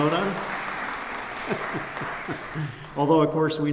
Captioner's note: applause